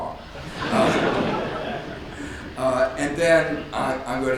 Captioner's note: audience laughs